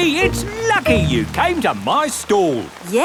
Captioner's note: none